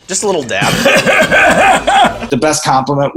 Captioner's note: laughs